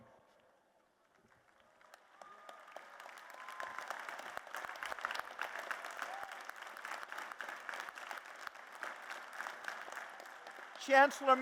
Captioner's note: applause